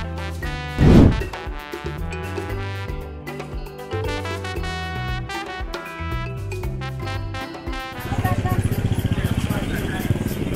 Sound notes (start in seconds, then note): 0.2 african music; 7.9 street noise